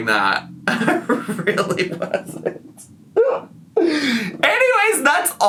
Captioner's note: laughing